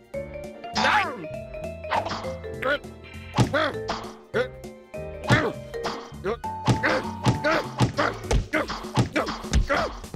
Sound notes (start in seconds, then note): 3.5 grunting